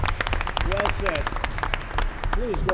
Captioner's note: applause